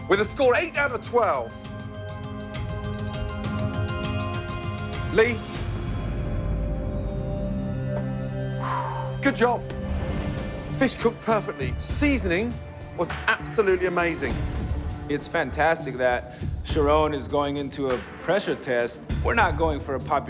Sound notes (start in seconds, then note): 8.4 exhales